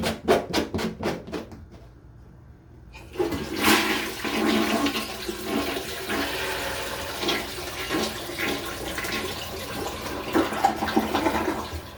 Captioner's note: toilet flushing